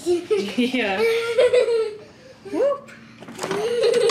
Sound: child laughs

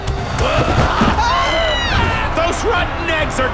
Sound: tommies exclaiming

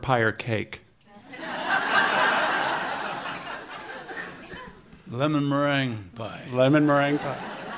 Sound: laughter

